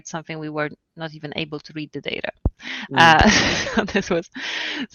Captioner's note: laughs